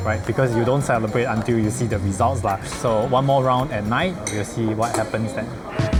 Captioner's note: none